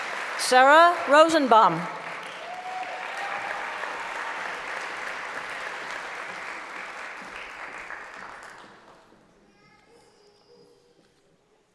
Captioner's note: applause; cheering; applause